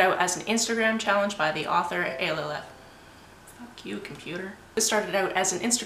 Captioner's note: computer beeps